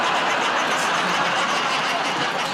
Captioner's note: laughter